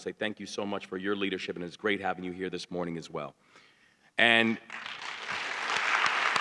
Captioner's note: applause